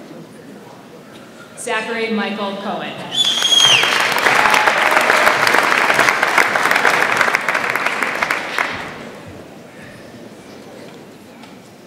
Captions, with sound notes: Zachary Michael Kohen. (audience applauds)